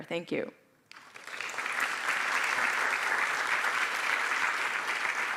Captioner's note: applause